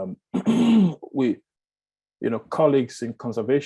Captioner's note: clears throat